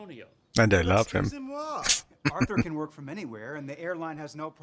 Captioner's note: chuckling